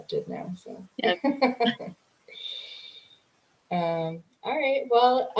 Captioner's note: laughing